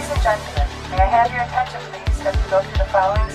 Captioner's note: airplane security announcement